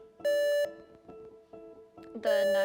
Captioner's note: buzzer beeps